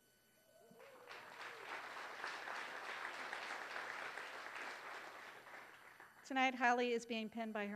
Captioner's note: applause